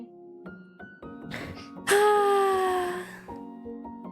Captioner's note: ROSE sighs